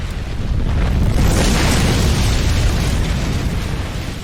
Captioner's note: crash